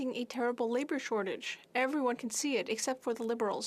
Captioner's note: speaking French